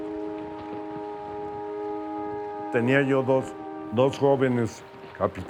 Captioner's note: in Spanish